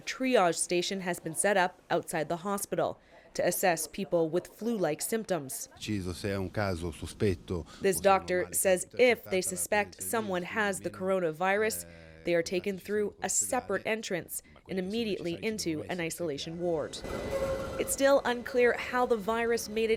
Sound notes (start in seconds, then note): 10.5 speaking Foreign Language